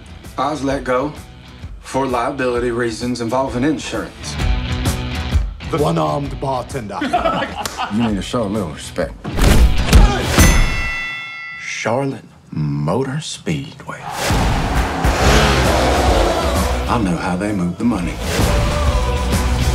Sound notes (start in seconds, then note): 7.0 laughing